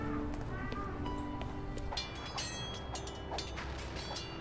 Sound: swords Clanging

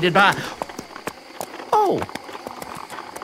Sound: sighs

